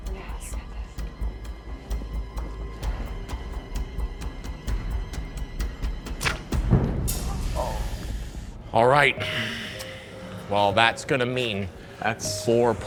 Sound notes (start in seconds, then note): 6.2 arrow whooshing